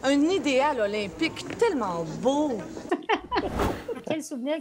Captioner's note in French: rires